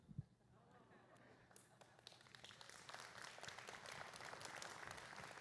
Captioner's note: applause